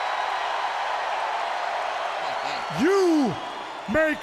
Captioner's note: crowd cheering